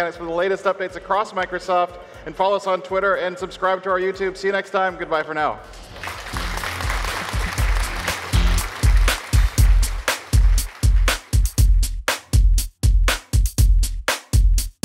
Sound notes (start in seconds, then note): 5.9 clapping; 8.6 pop techno music